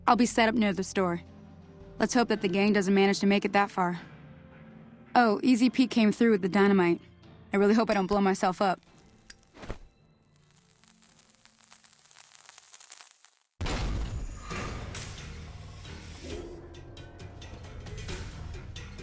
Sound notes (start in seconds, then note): 8.8 lighter flick; 10.3 fuse ignition; 13.6 explosion